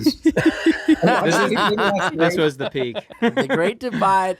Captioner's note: they laugh